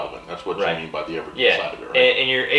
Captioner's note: faintly speaking